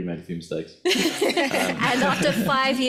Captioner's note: audience laughs